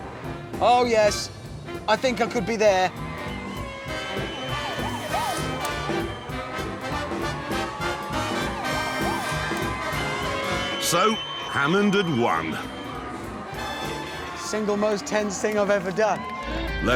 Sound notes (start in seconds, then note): 3.4 crowd cheering